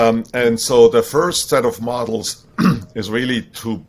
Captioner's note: clears throat